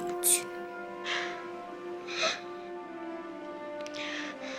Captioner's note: boy whimpering